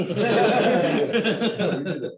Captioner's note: laughter